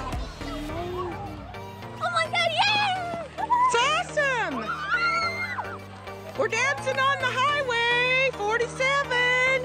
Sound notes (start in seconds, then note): 4.5 cheering